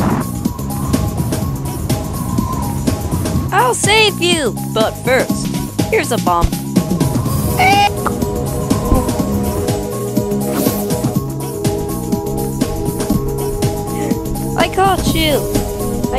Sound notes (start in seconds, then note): 2.1 scared breathing